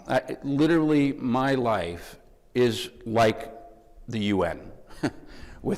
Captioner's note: chuckles